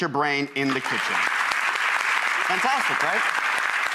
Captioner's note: applause